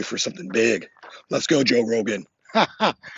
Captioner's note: laughs